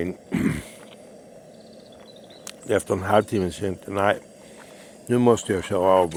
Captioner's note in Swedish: harklar sig